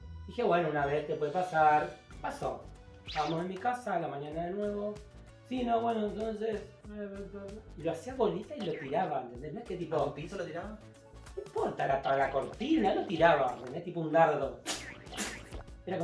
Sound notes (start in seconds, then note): 6.9 stammers